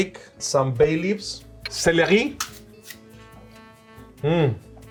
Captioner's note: celery snaps